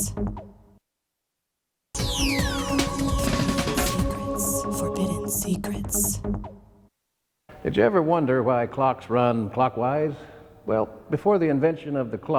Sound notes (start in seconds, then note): 0.0 lady whispering "secrets"; 0.2 lady whispering "Forbidden Secrets"; 3.3 lady whispering "secrets"; 6.2 lady whispering "Forbidden Secrets"